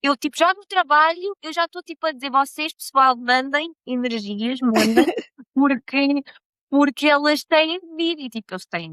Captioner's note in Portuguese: risadas